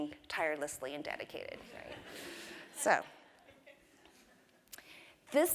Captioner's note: laugh